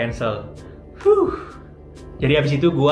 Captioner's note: sigh of relief